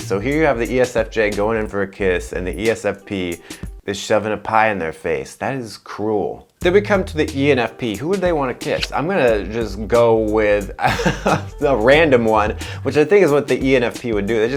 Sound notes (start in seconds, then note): 10.8 laughs